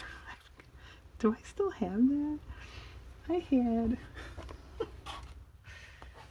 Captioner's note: laughs